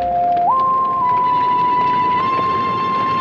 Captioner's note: fire Roaring